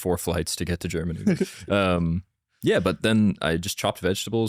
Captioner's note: laughs